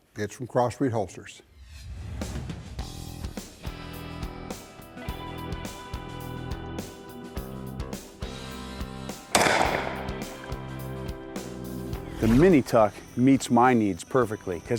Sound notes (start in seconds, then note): 9.3 gun fires